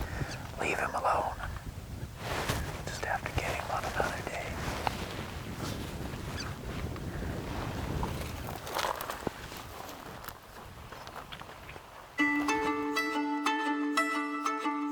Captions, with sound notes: Leave him alone. Just stay at the game on another day. (wind whooshing) (tapping of footsteps) (upbeat music)